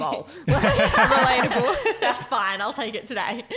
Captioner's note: laughing